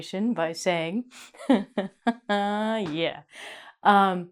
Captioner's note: laughs